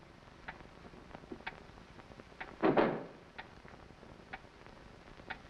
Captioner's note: clock ticking